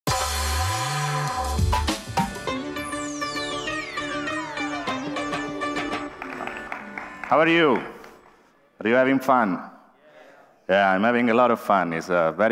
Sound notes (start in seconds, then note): 5.7 applause